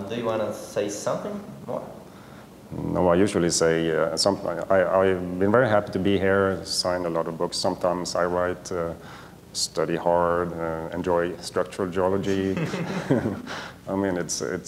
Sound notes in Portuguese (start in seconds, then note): 12.4 risos